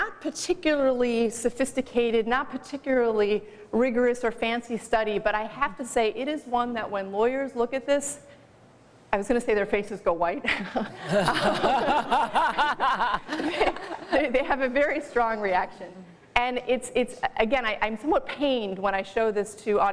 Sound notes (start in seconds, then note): 14.1 laughter